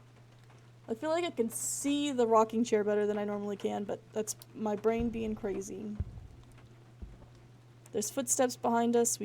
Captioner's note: three Heavy Footsteps